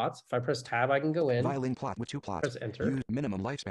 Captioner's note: voiceover